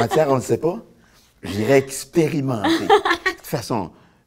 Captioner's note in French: rire